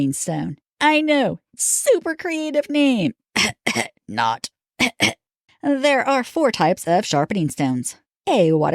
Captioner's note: cough, cough